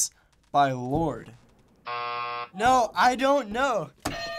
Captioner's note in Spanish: buzzer